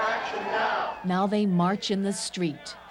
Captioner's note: chanting